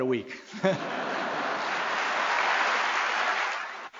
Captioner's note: applause